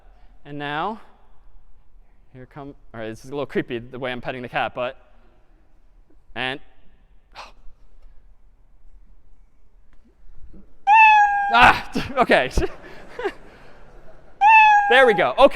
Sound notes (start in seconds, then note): 7.4 sigh; 10.8 meowing; 12.0 laughter